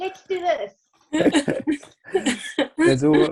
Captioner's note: chuckling